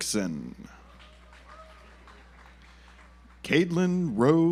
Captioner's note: audience applauds